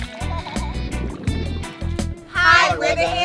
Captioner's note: child laughing